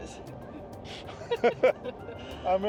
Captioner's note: laughs